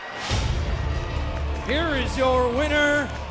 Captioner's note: bell ringing